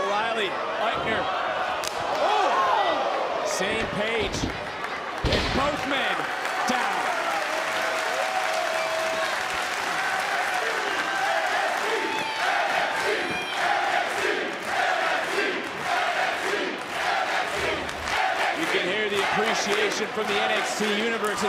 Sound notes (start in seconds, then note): 5.6 applause; 11.6 crowd chants